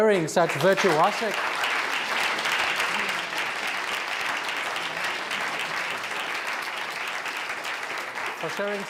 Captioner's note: applause